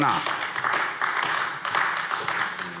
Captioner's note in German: Beifall AfD